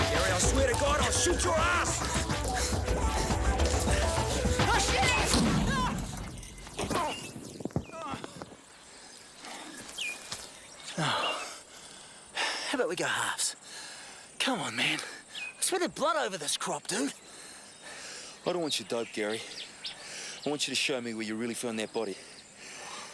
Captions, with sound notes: Gary, I swear to God, I'll shoot your ass! - Oh shit! (shouts) (explosion rumbles) (sighs) How 'bout we go halves? Come on, man. I sweated blood over this crop, dude. - I don't want your dope, Gary. I want you to show me where you really found that body.